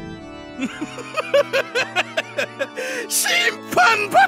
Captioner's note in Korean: 사악한 웃음소리